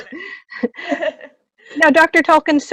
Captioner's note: laughing